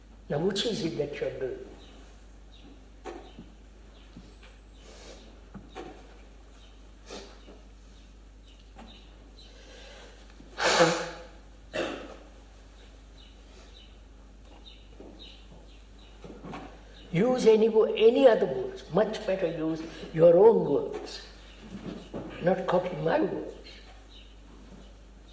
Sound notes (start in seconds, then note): 10.5 blows nose